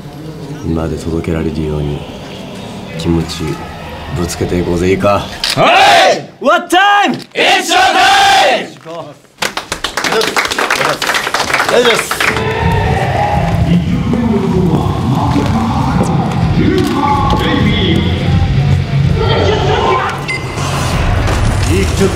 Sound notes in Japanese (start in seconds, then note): 9.4 拍手; 18.7 叫び声; 19.9 ピックアップ 効果音